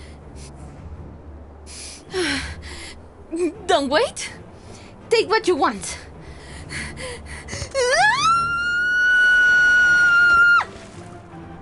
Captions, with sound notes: [sighs] Don't wait. Take what you want. [panting, screaming]